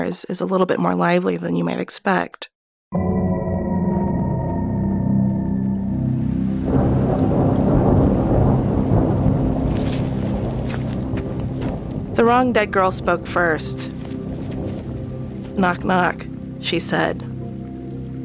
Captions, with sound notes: is a little bit more lively than you might expect. (eerie music) (thunder rumbling) The wrong dead girl spoke first. "Knock, knock", she said.